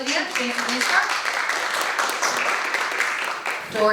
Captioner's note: applause